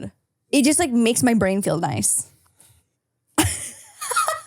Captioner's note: laughs